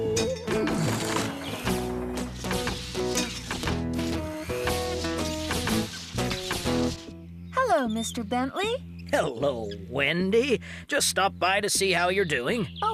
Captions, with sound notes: ( Mixer Whirring ) HELLO, MR. BENTLEY! HELLO, WENDY, JUST STOPPED BY TO SEE HOW YOU'RE DOING!